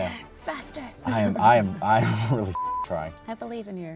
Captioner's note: beep